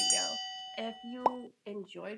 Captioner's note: bell rings